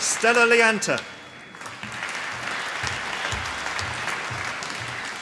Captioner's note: applause